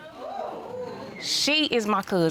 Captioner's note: audience exclaiming